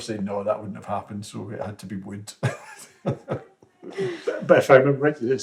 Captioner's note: laughter